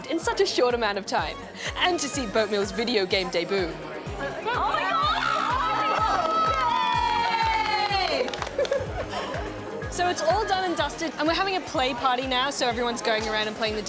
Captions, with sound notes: in such a short amount of time. And to see Boatmeal's video game debut. Oh, my God! (LAUGHTER) (ALL CHEER) So it's all done and dusted and we're having a play party now. So everyone's going around and playing